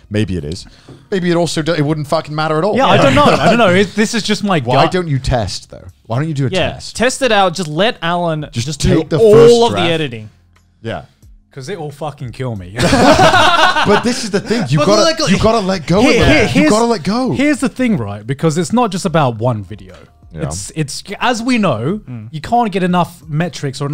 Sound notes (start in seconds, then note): 12.8 laughing